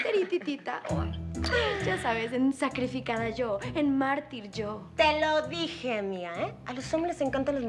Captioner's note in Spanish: Risas